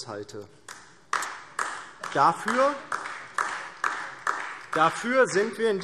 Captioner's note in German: Beifall DIE LINKE